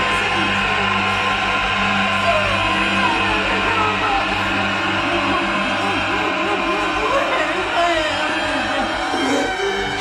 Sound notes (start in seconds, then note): 5.3 crying; 9.8 eerie music continues